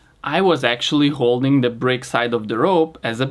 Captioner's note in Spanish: none